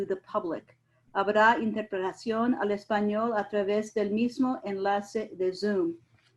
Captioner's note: speaking in foreign language